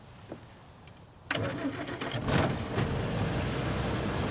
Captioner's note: truck humming